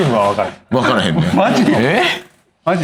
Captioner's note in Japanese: 笑い